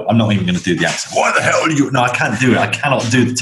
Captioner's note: in an American accent